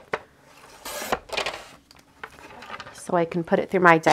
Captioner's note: blade slicing